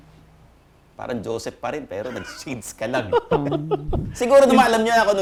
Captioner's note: laughs